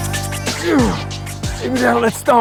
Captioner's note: Mike grunts